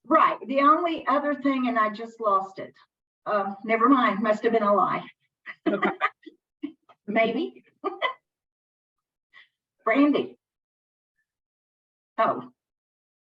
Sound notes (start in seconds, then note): 5.5 both laughing